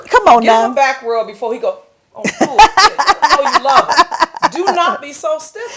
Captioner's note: laughter